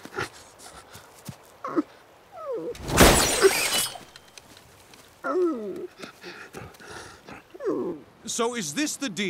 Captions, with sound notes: [whimpering] [whimpering] So, is this the deal?